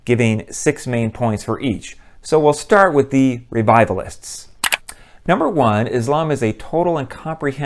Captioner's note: mouse click